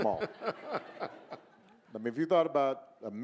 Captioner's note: audience laughing